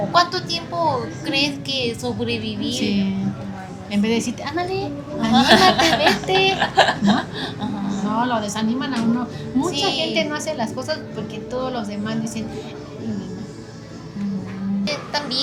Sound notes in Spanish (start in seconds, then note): 5.2 risas